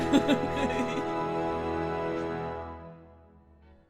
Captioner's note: laughing